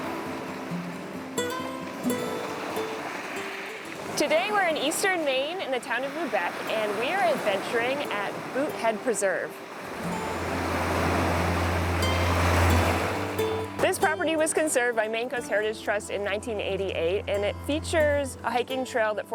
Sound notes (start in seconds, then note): 6.2 relaxing music; 6.2 water lapping